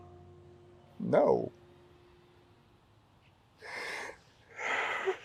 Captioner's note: starts to sob